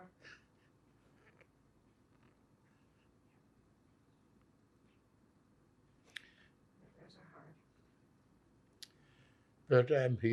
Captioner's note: pauses 6 seconds